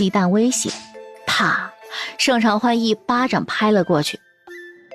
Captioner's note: smack!